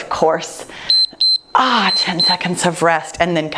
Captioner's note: timer beeps